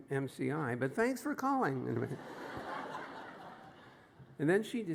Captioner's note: laughter